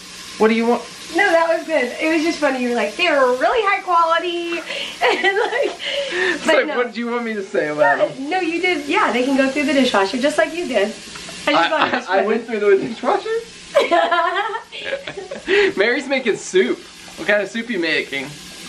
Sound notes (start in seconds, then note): 13.7 laughter